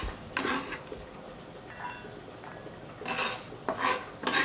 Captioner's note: knife scraping